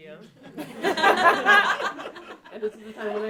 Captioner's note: audience laughing